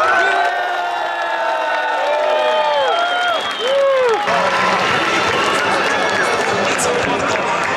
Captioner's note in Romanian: Aplauze